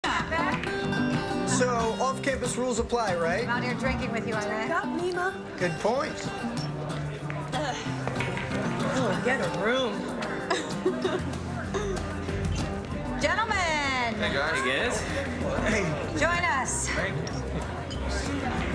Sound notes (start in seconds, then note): 10.4 laughs